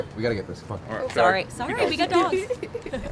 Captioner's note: riendo